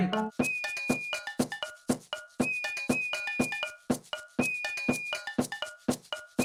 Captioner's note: whistles